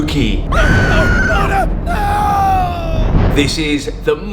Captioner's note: woman screams